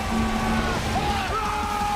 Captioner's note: bell ringing; crowd cheering